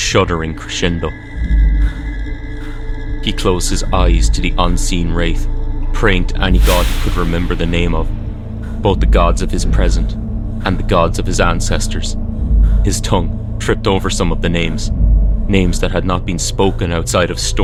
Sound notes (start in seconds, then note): 6.5 whooshing sound moving from left to right